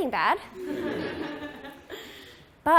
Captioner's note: laughter